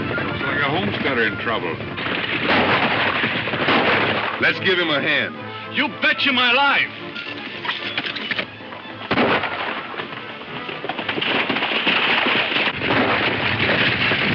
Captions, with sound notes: - Looks like a homesteader in trouble. (gunshots) - Let's give him a hand. - You betcha my life. (gunshot)